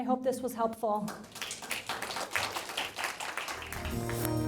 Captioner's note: applauding